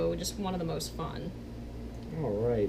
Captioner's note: none